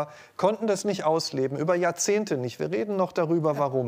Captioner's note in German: none